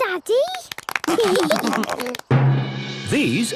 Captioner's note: clapping, laughing